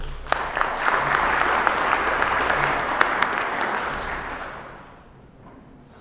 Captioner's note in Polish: oklaski